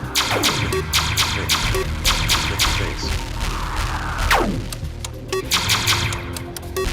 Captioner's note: in-game ship shooting; in-game ships exploding